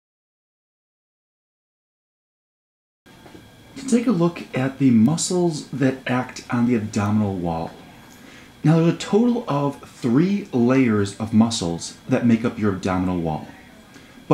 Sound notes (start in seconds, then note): 3.8 voiceover